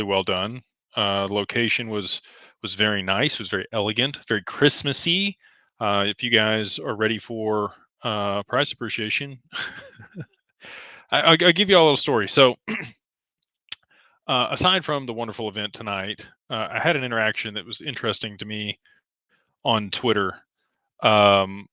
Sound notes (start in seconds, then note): 9.5 laughter; 12.6 clears throat